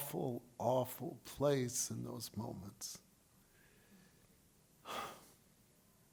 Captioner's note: sighs